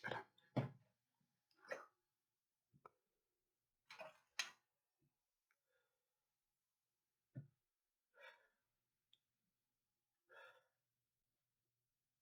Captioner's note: silence